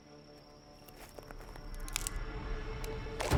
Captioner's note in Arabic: موسيقى متوترة; نقرات بندقية